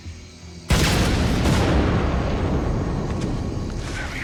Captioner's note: explosion